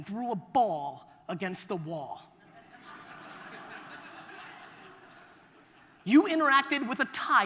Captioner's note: audience laughter